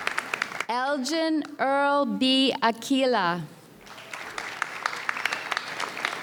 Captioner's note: audience applauds